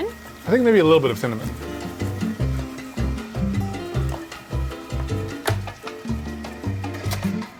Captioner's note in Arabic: طنين الخلاط